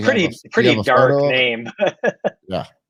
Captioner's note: laughs